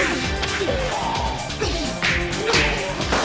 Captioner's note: groaning